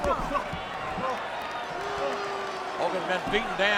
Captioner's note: crowd clamoring